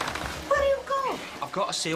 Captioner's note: in lithuanian accent